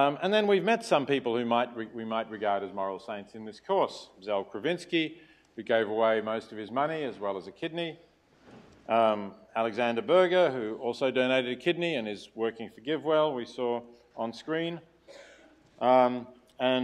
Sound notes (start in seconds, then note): 15.0 cough